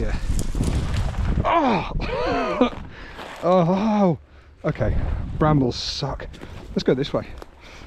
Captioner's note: laughs